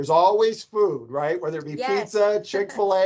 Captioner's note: laughs